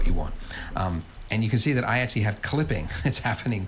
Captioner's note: laughs